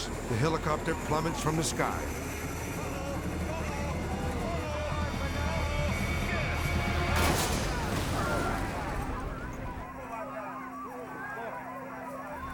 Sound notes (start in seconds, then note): 7.4 helicopter shattering; 9.1 crowd exclaiming